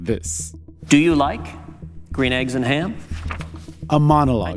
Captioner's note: soundbite of archived recording